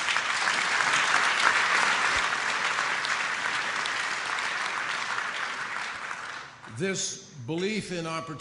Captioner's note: applause